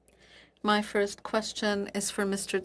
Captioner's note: speaking French